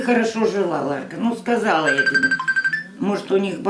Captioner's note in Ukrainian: дзвінок